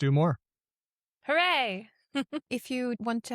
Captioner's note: chuckles